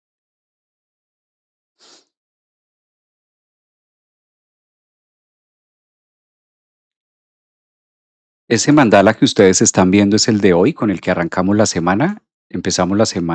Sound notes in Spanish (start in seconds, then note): 3.1 resoplido